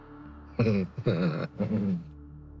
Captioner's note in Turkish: Gülüyor